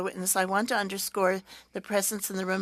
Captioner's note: speaking French